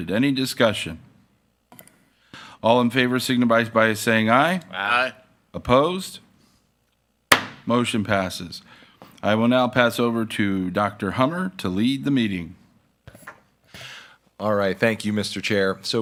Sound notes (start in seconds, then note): 7.3 gavel bangs